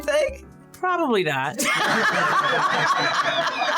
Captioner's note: laughter